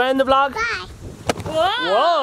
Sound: bang

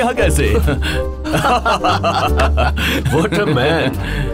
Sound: laughing

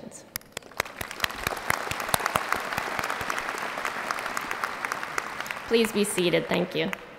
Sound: applause

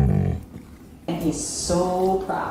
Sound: growling

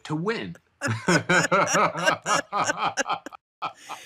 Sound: both laughing

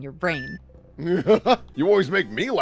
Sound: laughter

